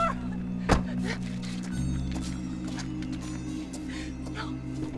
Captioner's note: door thuds